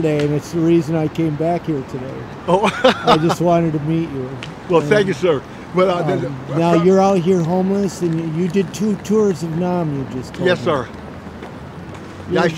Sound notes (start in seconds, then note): 2.4 chuckles